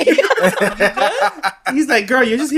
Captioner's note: laughs